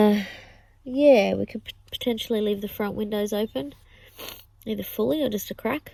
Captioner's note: sniffs